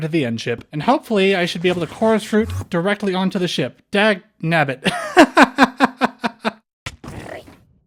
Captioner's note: laughter